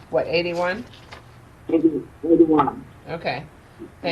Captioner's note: person speaking off mic